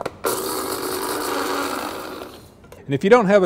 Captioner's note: spice Grinder sounds